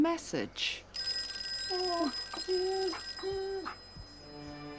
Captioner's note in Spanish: teléfono sonando